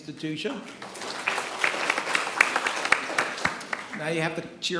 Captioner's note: attendees clapping